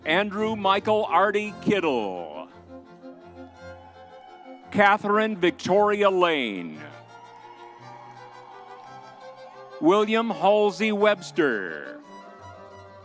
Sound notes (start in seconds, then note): 3.3 crowd cheering; 8.0 crowd cheering